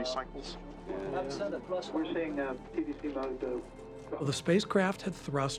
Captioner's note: navigators chattering